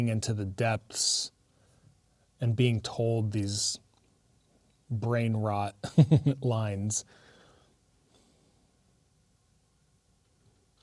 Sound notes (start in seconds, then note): 5.8 chuckles